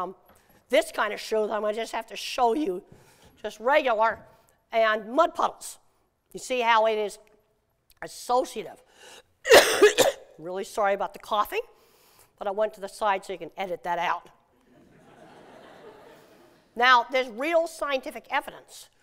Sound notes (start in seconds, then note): 9.4 coughs; 14.7 laughter